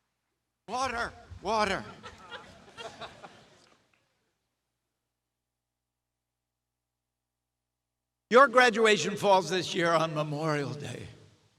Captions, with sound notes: Water, water. (audience chuckles) Your graduation falls this year on Memorial Day.